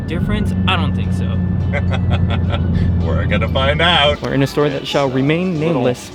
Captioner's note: laughs